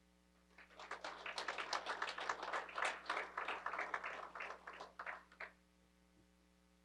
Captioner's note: applause